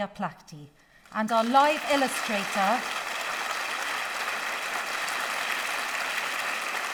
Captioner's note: audience applauding